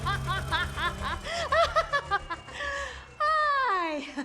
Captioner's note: laughing continues; chuckles